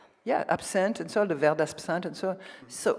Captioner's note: speaks French